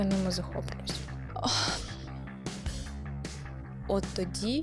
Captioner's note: sigh